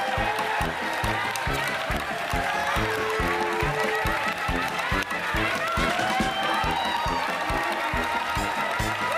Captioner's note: applause